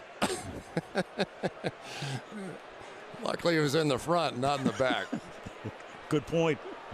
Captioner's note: laughs; laughs